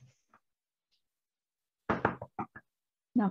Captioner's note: MORGAN Knocks